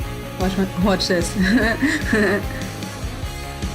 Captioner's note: nervous Timothee Chalamet laugh